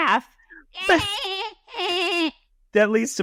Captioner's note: dolphin sounds